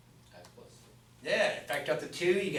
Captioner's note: voiceover